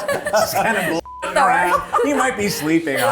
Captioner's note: beep